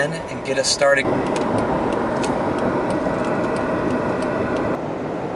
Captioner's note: turn signal clicks